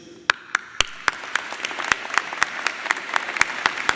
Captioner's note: audience applauding